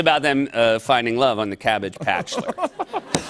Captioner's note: laughter